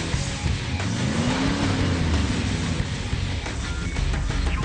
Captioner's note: car engine roars